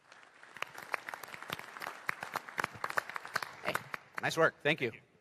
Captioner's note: applause